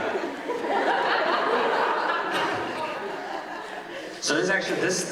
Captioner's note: audience laughing